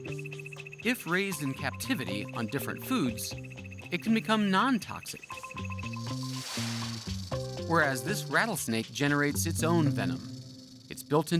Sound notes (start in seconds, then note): 5.4 tail rattling, snake hissing